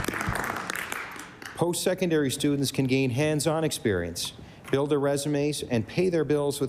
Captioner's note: applause